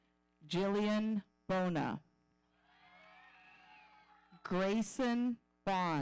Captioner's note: audience cheering